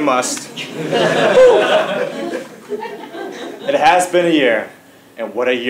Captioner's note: laugh